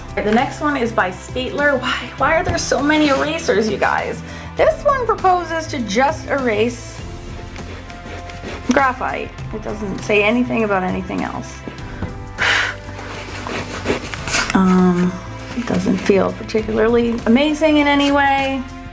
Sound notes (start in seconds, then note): 11.8 blows; 12.4 eraser rubbing